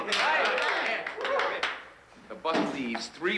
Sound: players whoop

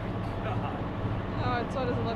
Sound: whispers

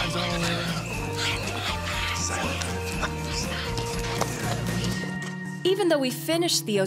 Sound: all whispering

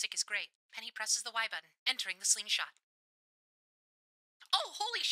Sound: radio Filter

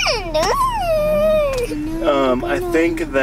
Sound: whingeing

